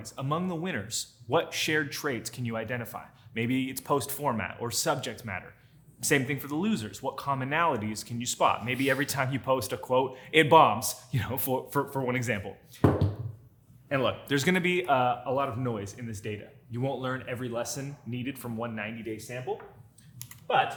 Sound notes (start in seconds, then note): 12.8 camera thuds